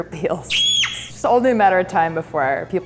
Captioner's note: screams